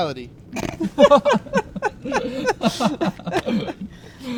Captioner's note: chuckling